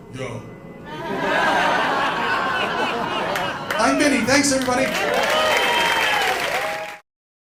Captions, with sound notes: "Yo" [Laughter] I'm Vinny! Thanks, everybody! [Cheers and applause]